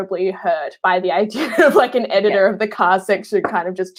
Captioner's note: laughing